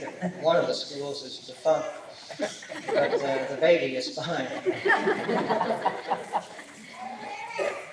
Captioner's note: laughter; laughter